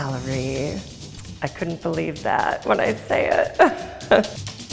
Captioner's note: laughs